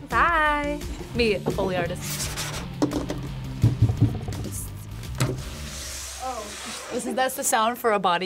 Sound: scratches table

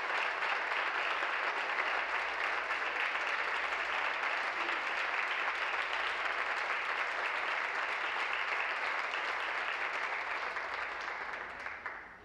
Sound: applause

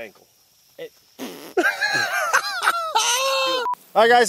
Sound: laughing

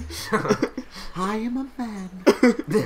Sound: soft feminine tone

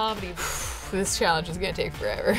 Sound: exhales

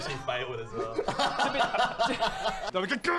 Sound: laughs

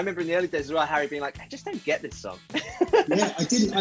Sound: laughing

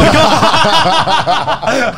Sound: laughs

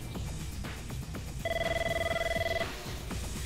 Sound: phone ringing

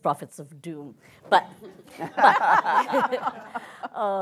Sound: laughs

